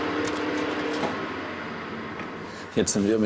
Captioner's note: machine stops